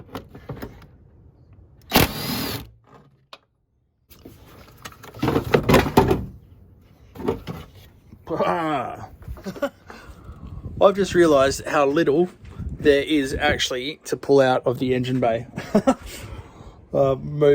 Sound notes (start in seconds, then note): 1.9 drill buzzing; 5.9 parts clanking; 15.5 chuckling